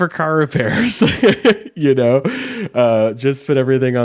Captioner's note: laughs